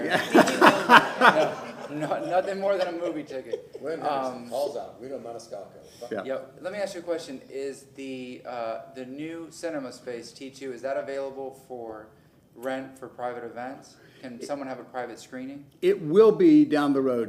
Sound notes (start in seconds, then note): 4.8 laughter